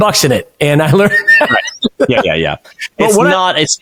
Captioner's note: chuckles